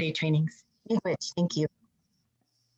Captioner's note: speaking in foreign language